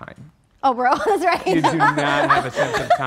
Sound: laughing

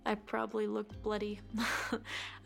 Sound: chuckles

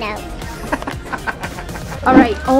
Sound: laughing

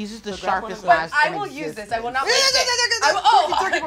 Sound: screams

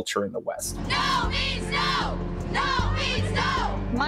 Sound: chanting

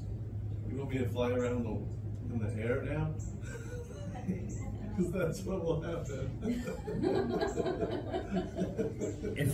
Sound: laughter

